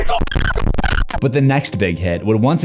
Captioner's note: scream; distorted audio